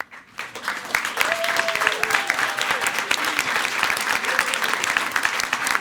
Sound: everyone applauding

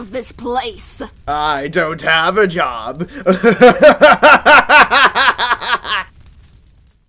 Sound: evil laughter

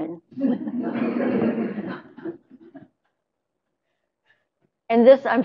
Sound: laughter

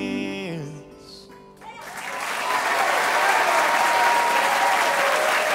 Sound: cheers and applause

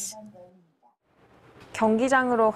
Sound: Korean

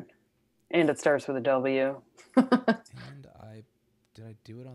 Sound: laughs

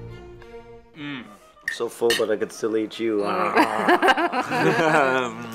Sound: growls; laughs

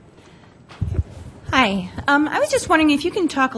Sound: voiceover

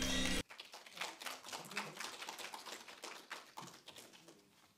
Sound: audience applauding

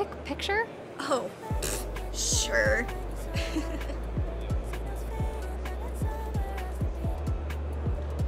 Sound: chuckles

